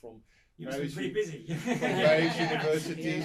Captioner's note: all laugh